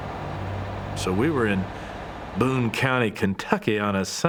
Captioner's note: southern accent